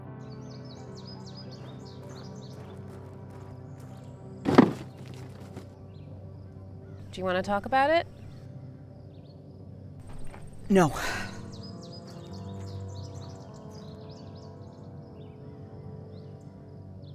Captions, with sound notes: (birds chirping) (gravel crunching) - Do you wanna talk about it? - No.